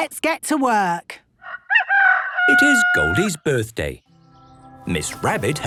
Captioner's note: rooster crowing